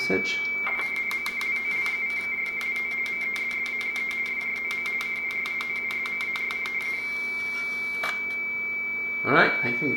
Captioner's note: baudot RTTY tones